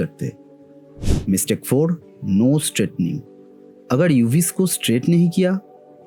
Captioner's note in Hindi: नाक से की जाने वाली आवाज़